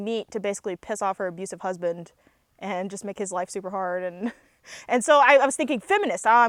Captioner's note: laughs